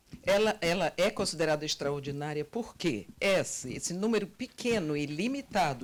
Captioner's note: translator speaking Portuguese